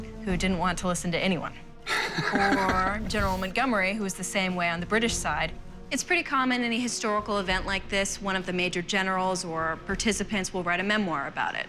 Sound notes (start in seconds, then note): 1.8 laughter